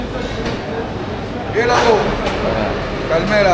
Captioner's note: speaking in foreign language